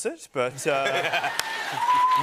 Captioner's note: cheers and applause